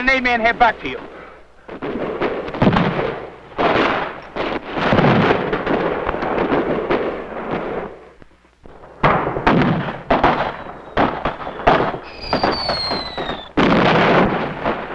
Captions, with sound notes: - Got me in the leg, neck and arm. - I'll move the platoon up with the tanks. I'll get an aid man here back to you. (guns blasting) (explosions booming)